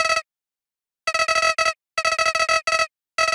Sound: game beeping

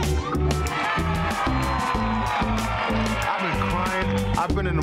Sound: guests cheer

